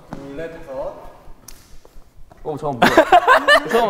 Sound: tick!

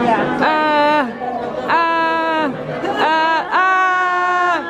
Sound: screaming

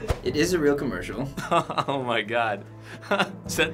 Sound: laughs

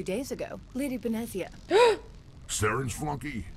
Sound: gasps

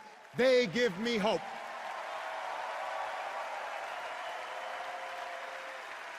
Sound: cheers and applause

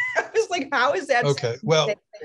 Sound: laughs

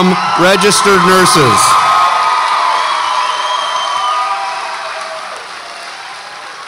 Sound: audience applauds and cheers

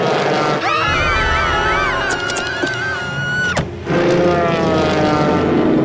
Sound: screaming

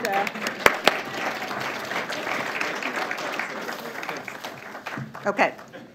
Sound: applause

